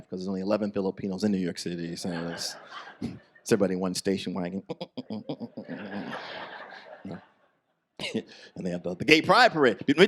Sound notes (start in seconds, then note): 4.6 imitates parade music; 5.4 audience laughs